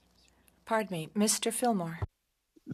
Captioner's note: speaking French